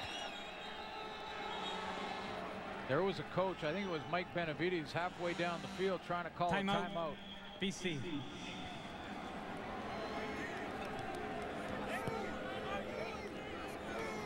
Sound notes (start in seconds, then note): 6.7 whistle blows